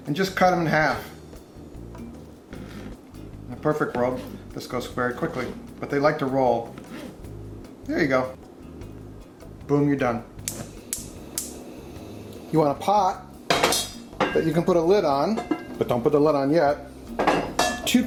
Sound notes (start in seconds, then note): 1.4 gentle, rhythmic music; 10.8 stove igniter clicking